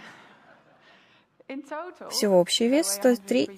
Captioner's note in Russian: Смех